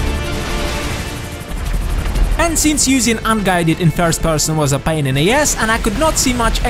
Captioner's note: rockets